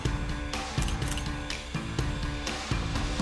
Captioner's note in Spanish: clics del obturador